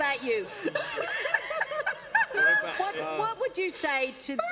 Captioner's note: laughter